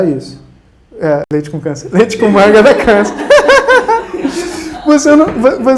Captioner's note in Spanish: Risas